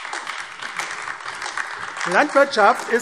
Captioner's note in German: Beifall AfD